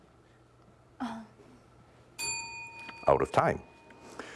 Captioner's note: bell rings